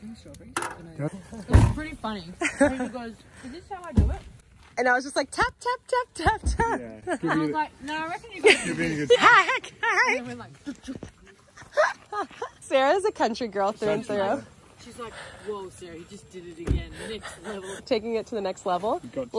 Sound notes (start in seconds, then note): 11.5 laughter